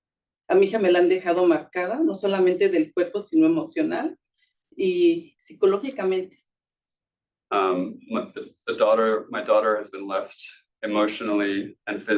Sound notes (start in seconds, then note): 0.6 speaking Spanish